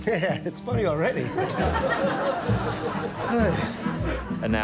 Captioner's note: all laughing